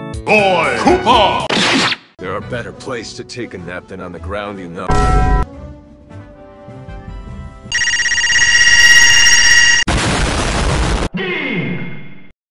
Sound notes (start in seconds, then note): 4.9 dong; 9.9 boom